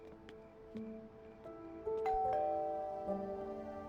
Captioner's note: doorbell chimes